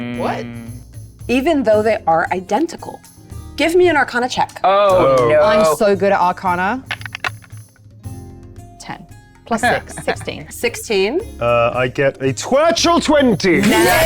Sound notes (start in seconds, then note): 6.8 die rattling